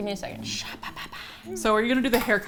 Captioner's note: whispers